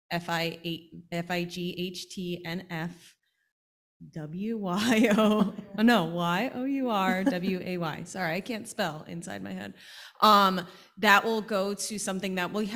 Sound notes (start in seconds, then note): 7.1 panel laughing